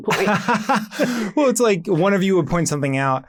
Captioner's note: laughs